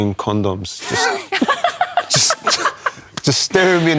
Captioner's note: laughter